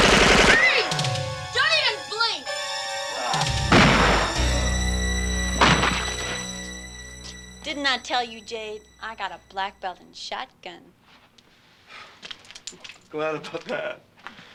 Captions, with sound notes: - Freeze! Don't even blink! (tense music) (Rusty grunting) (gun firing) - Didn't I tell you, Jade. I got a black belt in shotgun. - Glad about that.